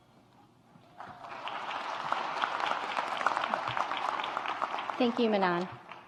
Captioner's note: audience applauds